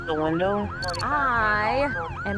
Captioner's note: sirens